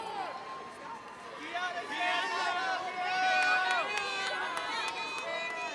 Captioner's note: audience cheering